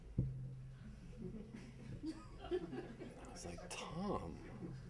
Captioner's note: audience laughing